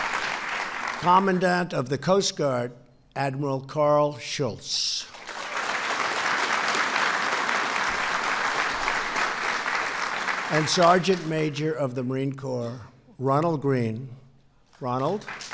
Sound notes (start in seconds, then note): 5.0 applause